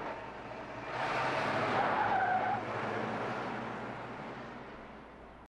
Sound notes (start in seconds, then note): 0.6 tires screeching